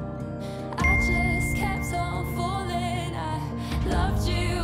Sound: phone dings

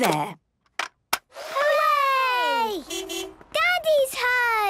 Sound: distant beeping

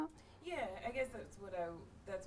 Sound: voiceover

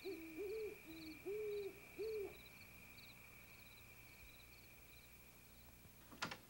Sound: owl hooting; crickets chirping

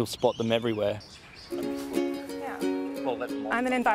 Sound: both chat quietly

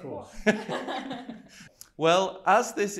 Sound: guests laugh; laughs

